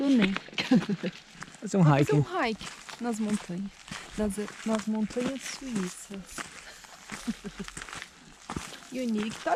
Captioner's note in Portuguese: risos; risos